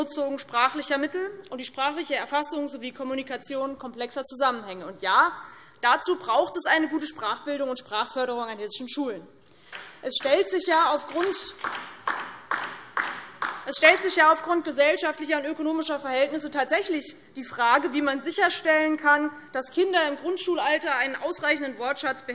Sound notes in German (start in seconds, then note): 11.0 Beifall DIE LINKE